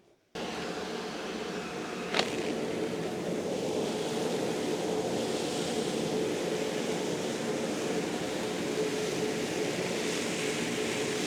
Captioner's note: sounds of vacuum